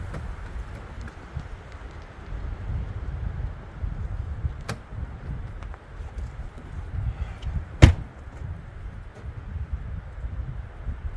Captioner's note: wind howling